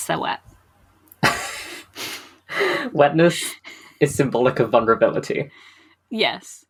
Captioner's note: laughs